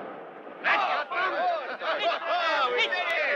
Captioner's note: explosion booming; all shouting